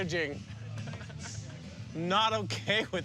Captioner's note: laughing